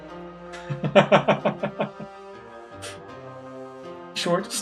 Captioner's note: laughs